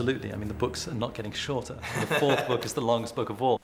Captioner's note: laughter